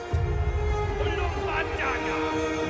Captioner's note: shouts in foreign language